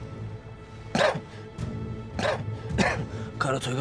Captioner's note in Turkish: Öksürme sesi